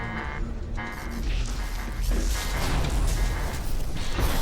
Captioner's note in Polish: szum ze masziny